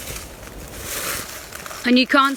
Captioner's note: leaves rustling